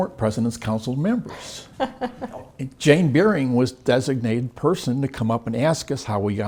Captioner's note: laugh